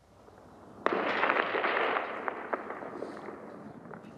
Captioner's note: rockets firing